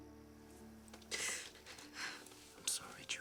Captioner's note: Jules crying